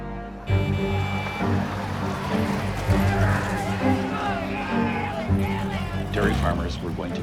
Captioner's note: horn honking, people shouting